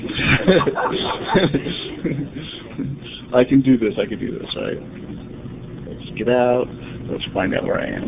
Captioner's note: laughter